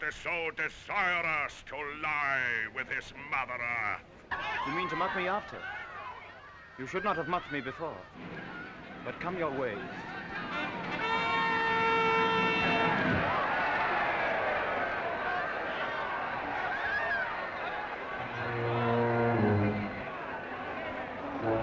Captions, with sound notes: that is so desirous to lie with his Mother Earth? - You mean to mock me after? You should not have mocked me before. But, come your way. (trumpets reporting) (crowd cheering) (suspenseful music)